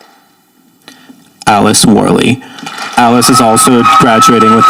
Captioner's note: audience applauding